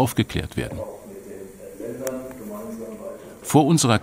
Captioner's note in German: Leises Stimmengewirr